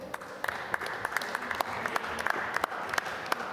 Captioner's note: applause